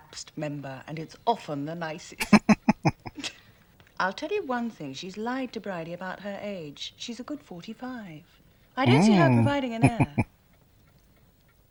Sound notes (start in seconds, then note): 2.2 chuckling; 9.8 chuckling